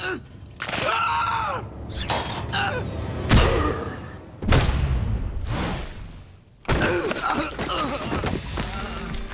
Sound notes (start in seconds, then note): 0.7 screaming; 1.6 clanking; 3.0 grunting; 6.3 grunting